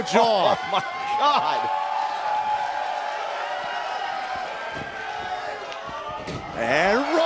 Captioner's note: crowd cheering